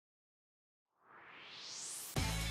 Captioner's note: swoosh